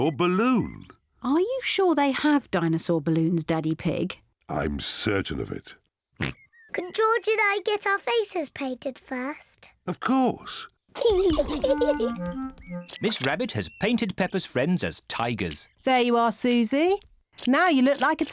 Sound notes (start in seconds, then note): 6.2 oinks; 11.0 both giggle